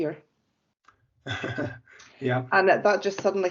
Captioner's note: laughs